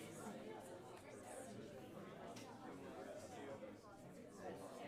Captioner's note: students chattering